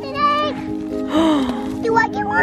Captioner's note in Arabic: لهيث